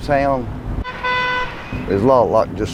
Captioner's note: honking